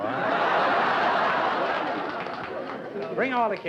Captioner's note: laughter